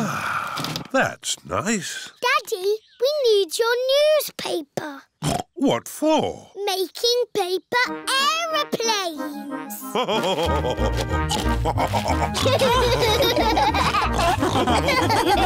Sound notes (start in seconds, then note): 0.0 sighs; 5.4 snorts; 11.2 laugh and snorts; 12.4 all laughing